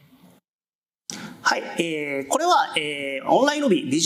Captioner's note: speaking japanese